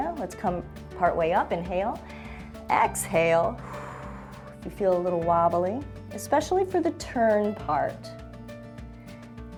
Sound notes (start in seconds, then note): 2.1 inhales; 3.5 exhales